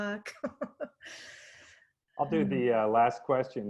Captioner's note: laughing